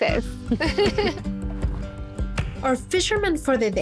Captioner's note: laughs